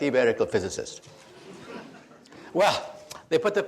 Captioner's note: audience laughs